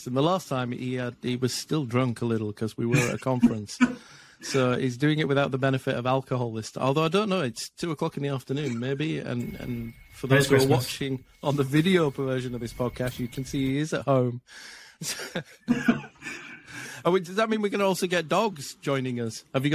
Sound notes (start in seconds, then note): 15.0 laughs